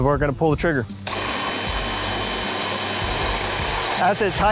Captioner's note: drill hums